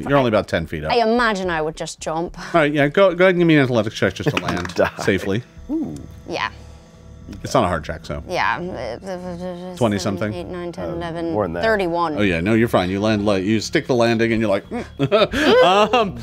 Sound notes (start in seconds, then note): 5.1 dice clatter; 14.7 laughs